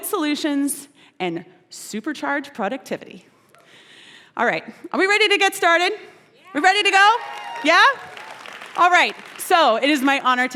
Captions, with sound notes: solutions, and supercharge productivity. All right, are we ready to get started? We're ready to go? Yeah? [APPLAUSE] All right, so it is my honor